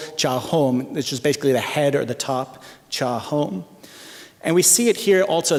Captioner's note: non-english speech; non-english speech